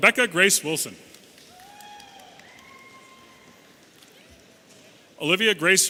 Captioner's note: audience cheering